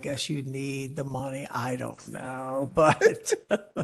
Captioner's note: laughter